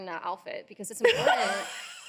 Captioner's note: laughing